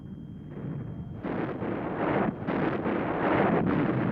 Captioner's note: explosions